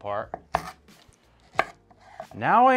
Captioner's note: sounds of chopping